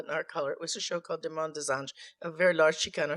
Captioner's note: speaking in foreign language